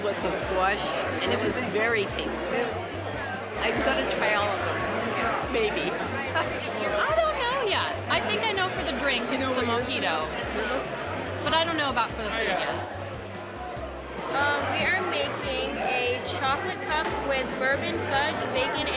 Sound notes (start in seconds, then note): 5.5 chuckling; 13.5 chattering